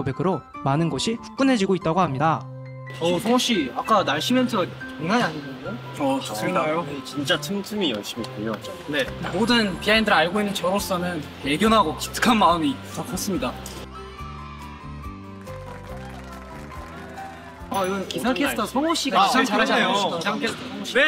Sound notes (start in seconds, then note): 15.1 applause for who pulled it off nicely!